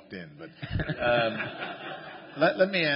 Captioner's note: laughter